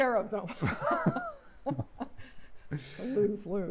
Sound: laughter

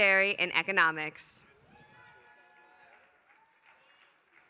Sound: applause

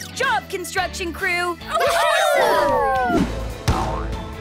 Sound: cheering

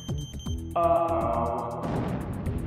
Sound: landmine triggers

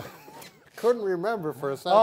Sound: laughs

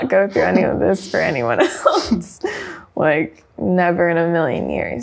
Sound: laughing

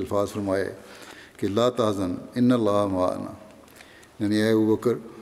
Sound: Arabic

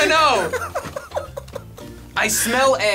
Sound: laughing

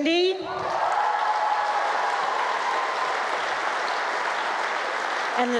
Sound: cheering, applause

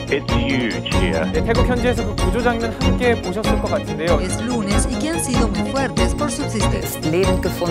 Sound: news broadcasters speaking foreign language

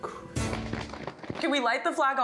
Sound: flag flapping

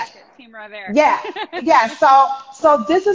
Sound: laughing

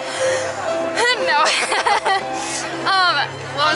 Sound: laughter

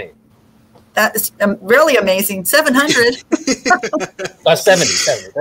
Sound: laughing

